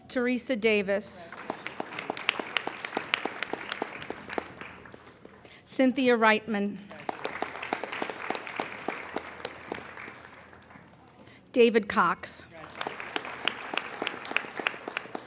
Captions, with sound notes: Teresa Davis. (applauding) Cynthia Rightman. (applauding) David Cox. (applauding)